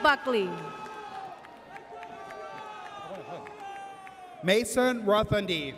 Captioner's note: audience cheers